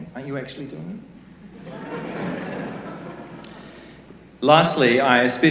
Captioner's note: laughter